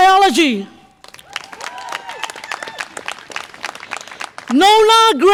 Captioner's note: audience applause and cheer